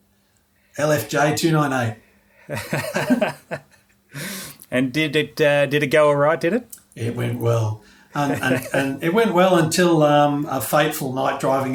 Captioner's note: laughing